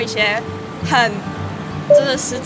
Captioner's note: choked up